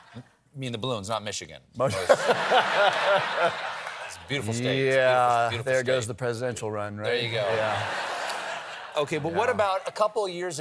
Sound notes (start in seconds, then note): 1.9 laughter